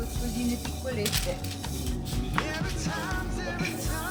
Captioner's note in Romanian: vorbind italiană